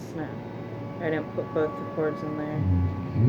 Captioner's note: mumbling due to error